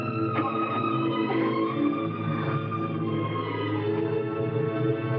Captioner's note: Louise breathing heavily